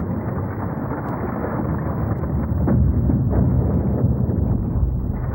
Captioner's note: thunder rumbling